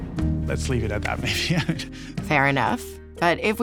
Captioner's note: laughs